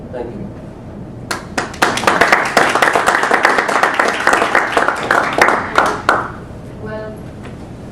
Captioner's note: applause